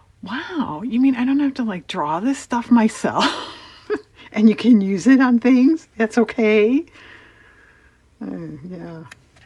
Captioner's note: laughs